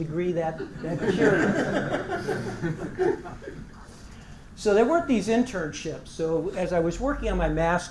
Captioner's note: laugh